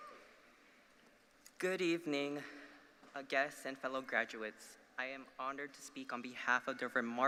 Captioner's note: applause